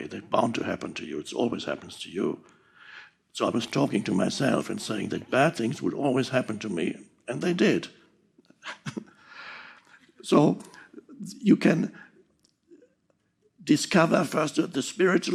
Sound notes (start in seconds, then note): 8.6 chuckles